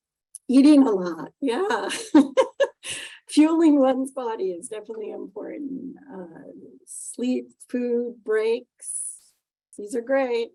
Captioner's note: laughing